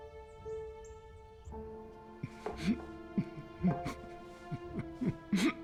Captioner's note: sobbing